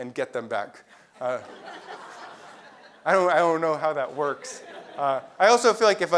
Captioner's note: laugh